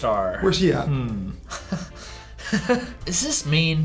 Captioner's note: laughs